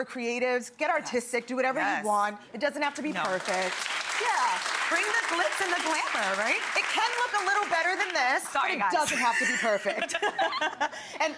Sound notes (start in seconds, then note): 3.1 audience applauding; 9.0 laughs